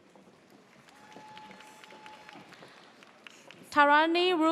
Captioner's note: audience cheers